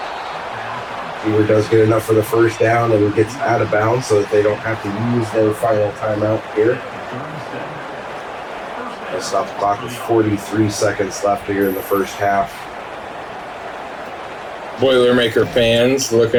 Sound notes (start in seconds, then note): 1.3 crowd Noises; 8.0 crowd Noises; 13.0 crowd Noises